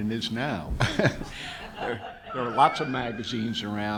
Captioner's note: audience laughs